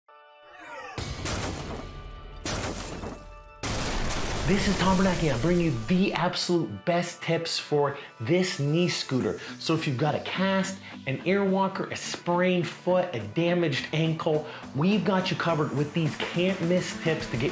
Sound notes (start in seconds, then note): 2.4 banging; 3.6 crashing